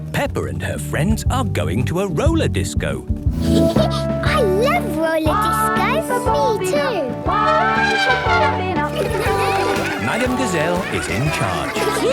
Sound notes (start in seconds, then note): 3.5 Peppa laughing; 7.3 trumpeting